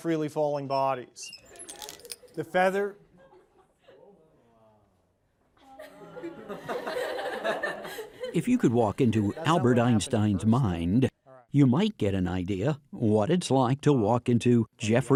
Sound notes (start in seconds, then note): 3.7 laughing